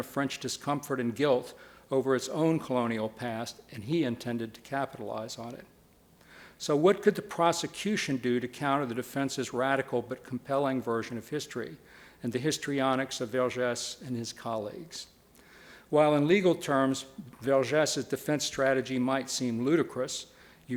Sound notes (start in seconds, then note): none